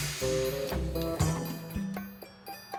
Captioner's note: bus decompresses